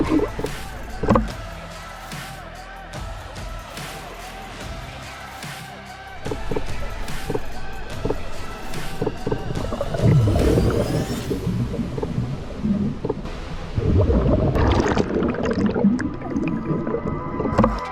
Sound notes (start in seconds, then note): 6.3 shutter taps; 14.9 bubbles ripple